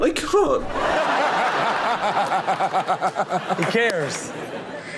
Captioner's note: all laugh